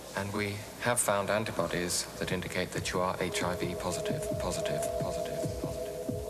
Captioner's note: echoing